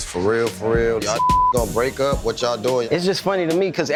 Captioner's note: beep